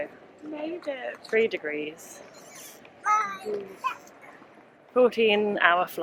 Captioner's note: babbling